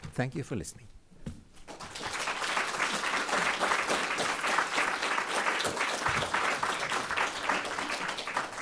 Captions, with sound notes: Thank you for listening. (audience applauding)